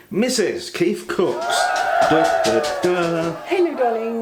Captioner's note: cheering